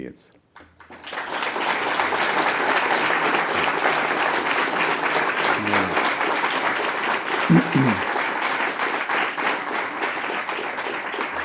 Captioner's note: applause